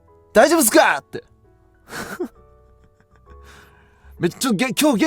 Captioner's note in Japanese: 笑い